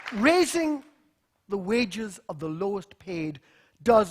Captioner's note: applause